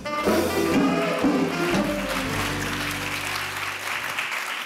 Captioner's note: audience applauding